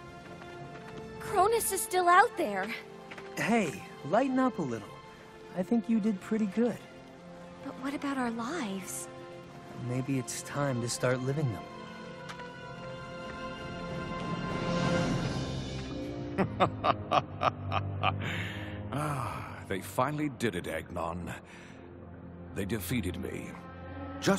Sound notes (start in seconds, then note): 16.3 evil laughing